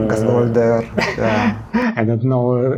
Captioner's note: laughing